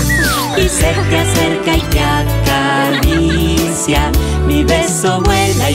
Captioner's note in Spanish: Risas